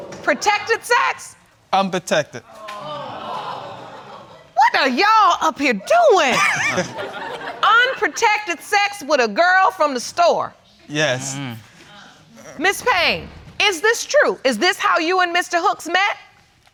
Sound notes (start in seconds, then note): 2.7 audience exclaiming; 6.3 laughing